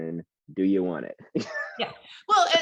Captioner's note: laughs